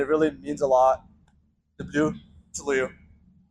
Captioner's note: speaking Russian